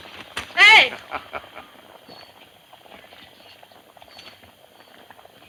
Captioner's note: Parker chuckling